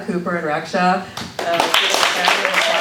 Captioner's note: applause